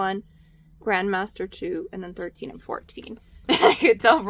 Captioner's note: laughs